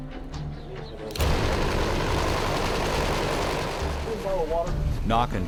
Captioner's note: sound of helicopter rotors